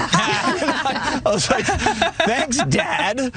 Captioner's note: laugh